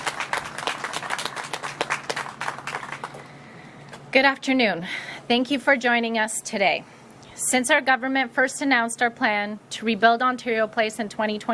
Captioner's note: applause